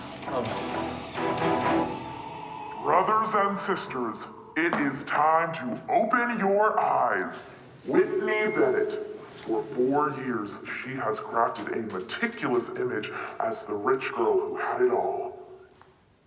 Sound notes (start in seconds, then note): 0.0 dramatic music; 2.5 television Voice